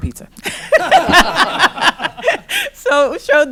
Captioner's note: laughter